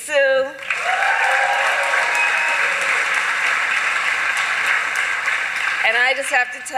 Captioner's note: applause